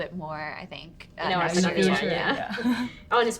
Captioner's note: women chattering